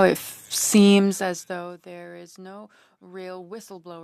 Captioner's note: speaking French